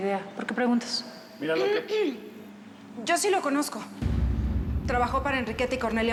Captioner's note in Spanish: araceli carraspea